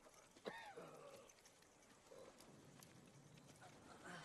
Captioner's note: coughs and groaning